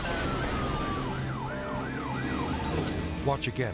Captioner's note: sirens blaring